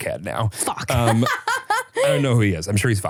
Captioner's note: laughs